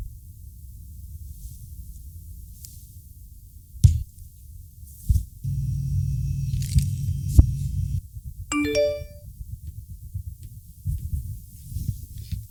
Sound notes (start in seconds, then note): 8.5 mobile chimes